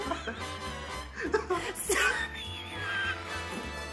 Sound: both laughing

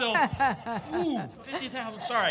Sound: audibly exhales

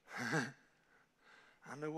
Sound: preacher laughing

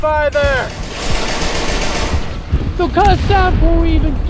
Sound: gunshots booming

